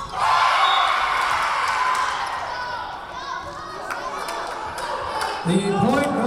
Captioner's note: Lions cheering; whistle blowing